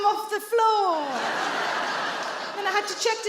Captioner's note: audience laughing